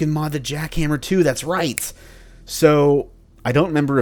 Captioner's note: snaps fingers